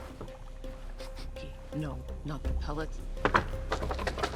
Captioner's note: sniffing